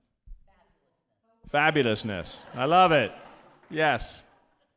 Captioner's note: audience laughing